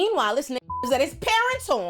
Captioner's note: beep